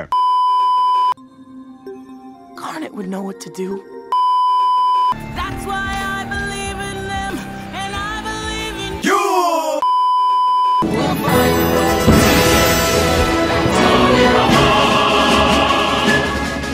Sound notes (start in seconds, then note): 4.1 beeeeeep